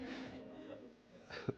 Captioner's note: laughter